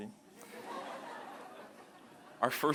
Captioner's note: laughter